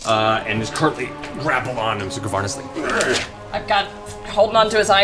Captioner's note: grunts